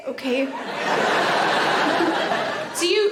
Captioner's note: audience laughing